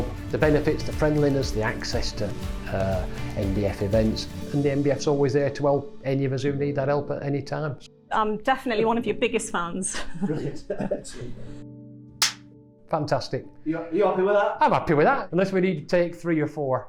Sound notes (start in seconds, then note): 9.8 laughter